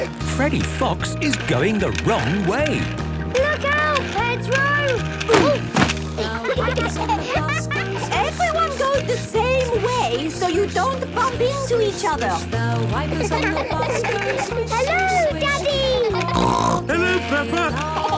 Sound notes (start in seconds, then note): 6.2 laughter; 13.0 laughter; 16.0 snorting; 17.9 laughter